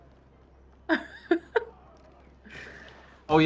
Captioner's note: laughs